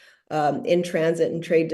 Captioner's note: cutting off, speaking in Arabic